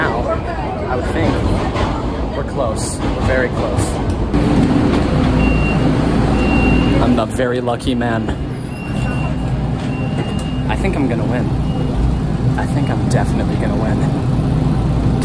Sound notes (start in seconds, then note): 4.5 Green Line door closing chime